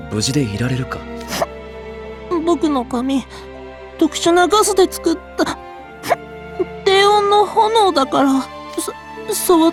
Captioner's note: hic